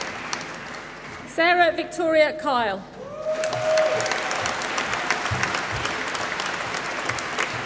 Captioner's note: applause